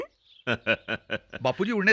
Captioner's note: laughing